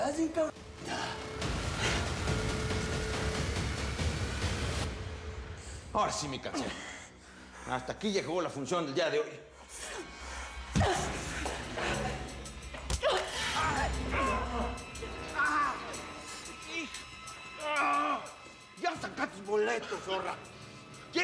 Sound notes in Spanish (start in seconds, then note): 10.8 ruido de puñetazos; 13.0 gemidos